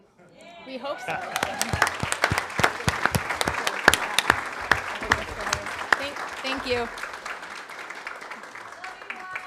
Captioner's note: applause